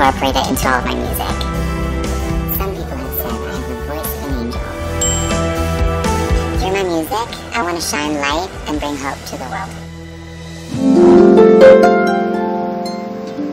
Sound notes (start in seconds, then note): 5.0 chimes; 10.7 harp music